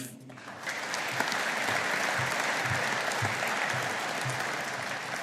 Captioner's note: audience applauding